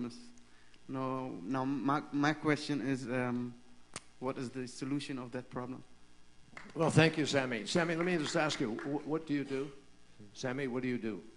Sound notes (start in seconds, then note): 7.6 applause